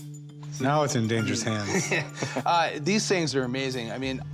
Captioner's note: laughs